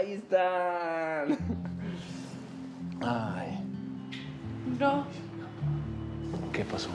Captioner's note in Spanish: Risas